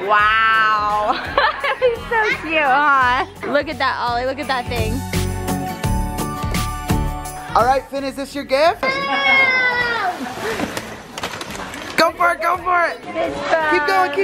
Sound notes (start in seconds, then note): 0.9 laughs; 5.5 bright music